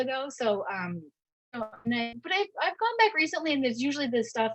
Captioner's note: audio distortion